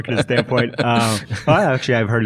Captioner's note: laughing